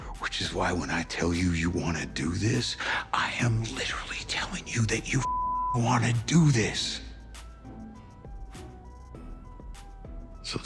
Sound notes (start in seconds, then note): 5.2 beep; 7.5 upbeat music